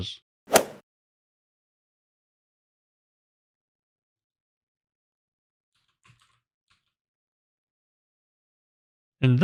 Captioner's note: golf ball hit sound effect